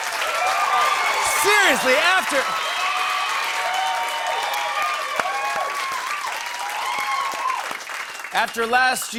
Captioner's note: cheers and applause